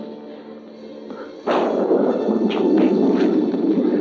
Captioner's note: thunder crashing